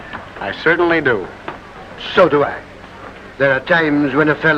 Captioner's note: none